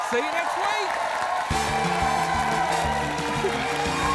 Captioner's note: cheering, applause